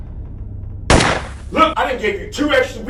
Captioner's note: gun bangs